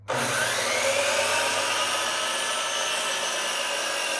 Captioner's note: saw buzzing